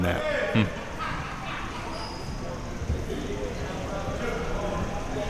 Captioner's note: audience chattering